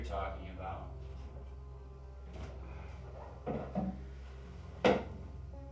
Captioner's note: footsteps approaching